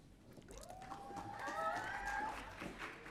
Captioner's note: audience cheering